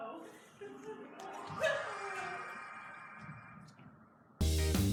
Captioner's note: pained laughter